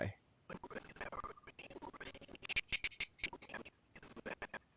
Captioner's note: audio skipping